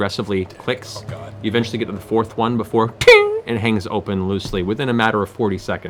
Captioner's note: tink